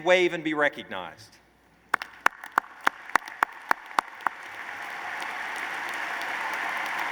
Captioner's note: applause